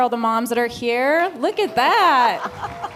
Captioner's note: applause